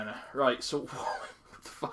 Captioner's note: laughs